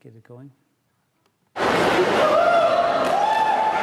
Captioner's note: whooping, cheering, laughing